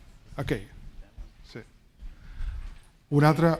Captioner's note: speaking spanish